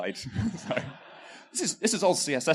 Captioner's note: laughter